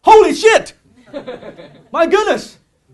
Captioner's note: audience laughing